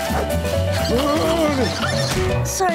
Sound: groaning

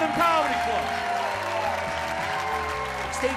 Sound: audience cheers and applauds

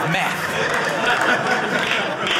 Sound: audience laughing

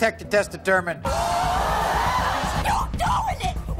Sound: yelling

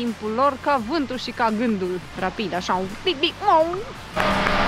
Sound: sound of fast car

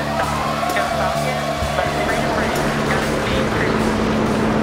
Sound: audience cheering; rocket engine roaring

